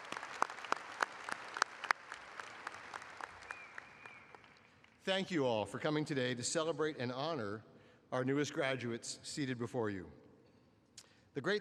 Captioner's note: applause